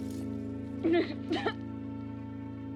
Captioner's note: crying, coughing